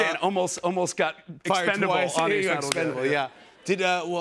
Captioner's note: normal voice